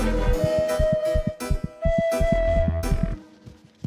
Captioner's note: heart thuds